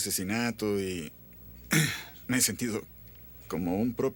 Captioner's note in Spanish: limpa a garganta